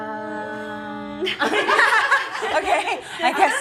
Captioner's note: awkward laughter